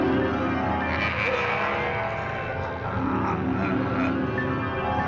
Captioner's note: groaning